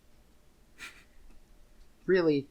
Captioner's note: quiet snickering